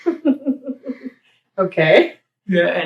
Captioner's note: laughs